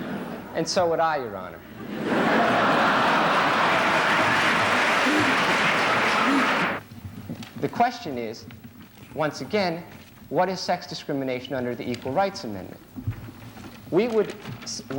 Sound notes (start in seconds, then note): 1.7 laughter